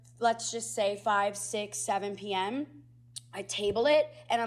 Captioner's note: none